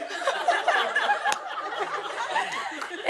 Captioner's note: laughter